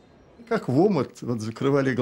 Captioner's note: speaking Russian